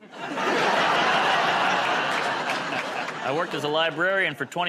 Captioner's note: laughter